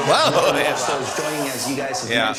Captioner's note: laughter